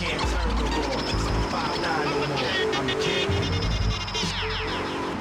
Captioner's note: tires screech